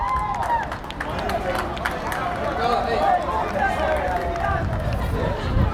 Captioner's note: crowd cheering and applauding